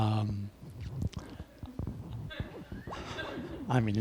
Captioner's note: laughter